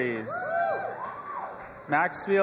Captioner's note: audience applauding and cheering